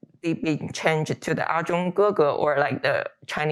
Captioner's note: speaking Chinese